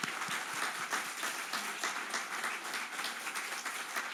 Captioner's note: applause